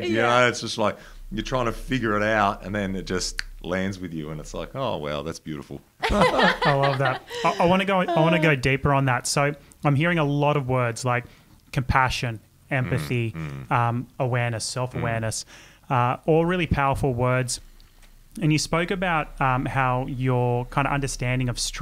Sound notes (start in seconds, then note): 3.0 clicks; 6.0 everyone laughing